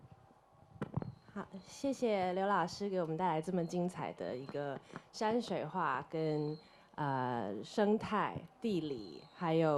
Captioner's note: Mandarin